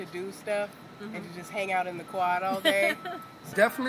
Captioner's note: chuckles